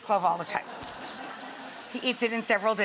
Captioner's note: audience laughing